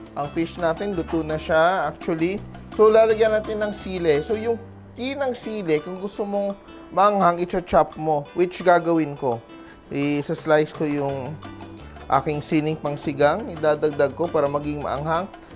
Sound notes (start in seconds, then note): none